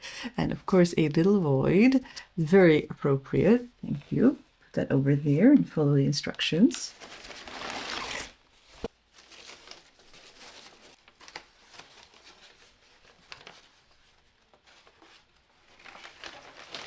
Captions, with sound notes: and of course a little void. Very appropriate, thank you. Put that over there and follow the instructions. [paper rustling] [more crinkling]